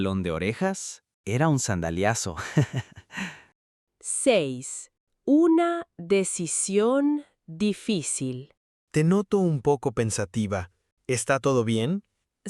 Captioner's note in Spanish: risas